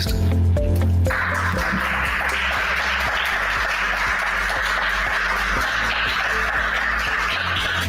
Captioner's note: applauses